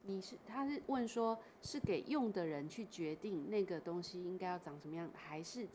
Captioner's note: Mandarin